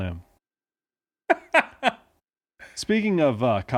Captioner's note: laughing